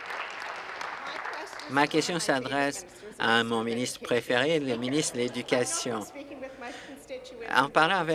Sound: applause

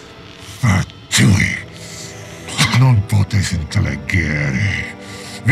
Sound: speaks in foreign language

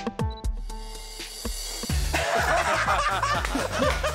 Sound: laughter

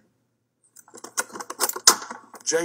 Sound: wood bangs

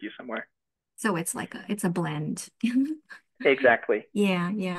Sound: laughs

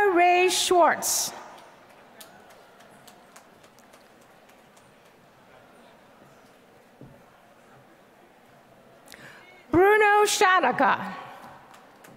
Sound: applause; applause

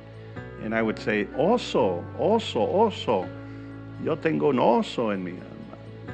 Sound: speaking in foreign language

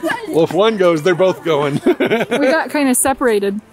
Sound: laugh; laughs

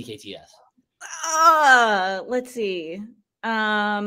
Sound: groans

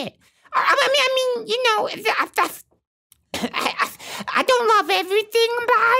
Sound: coughing

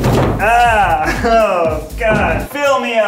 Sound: laughs

